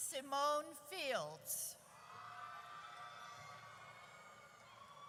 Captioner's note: audience cheers